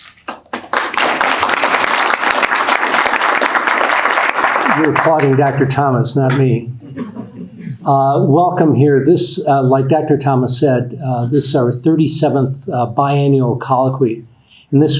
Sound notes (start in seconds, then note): 0.0 audience applauding; 6.8 audience laughing